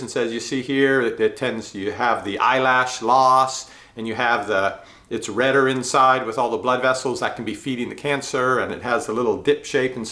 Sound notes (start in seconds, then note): none